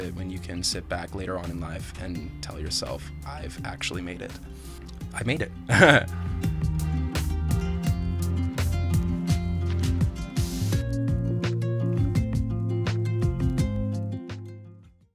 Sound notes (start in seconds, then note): 5.7 laughing; 7.0 mellow music